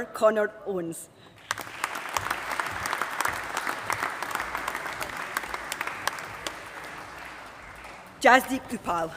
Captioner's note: applause